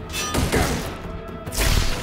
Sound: guns firing

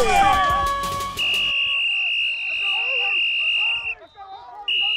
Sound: whistle

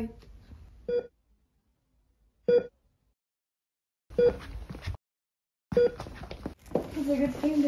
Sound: Bips d'un cardioscope

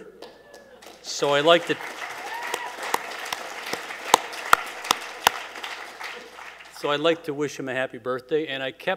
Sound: cheers and Applause

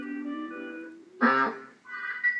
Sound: honk

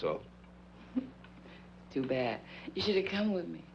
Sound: scoffs

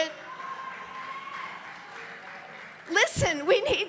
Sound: congregation lauds

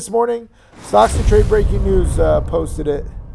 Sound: blasting

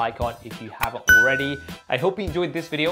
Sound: bell rings

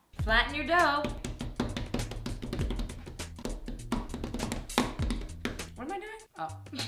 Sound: drumming on the dough to flatten

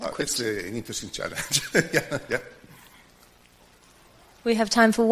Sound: laughs

